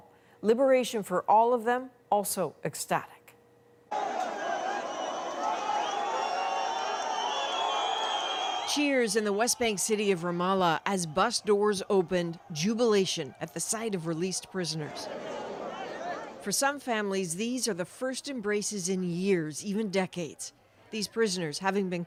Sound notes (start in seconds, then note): 6.0 cheers and Applause